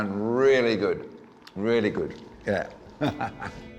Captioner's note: chuckles